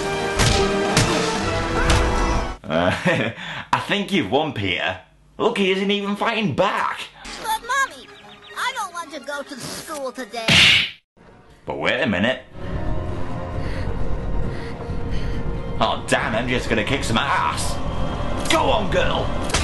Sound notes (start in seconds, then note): 2.7 chuckles